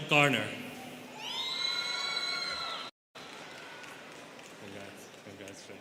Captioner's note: students cheering